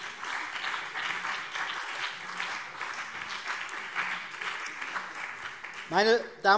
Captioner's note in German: Beifall CDU und BÜNDNIS 90/DIE GRÜNEN